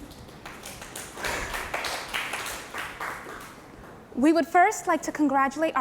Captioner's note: participants applauding